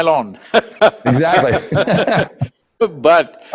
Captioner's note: both laugh; laughs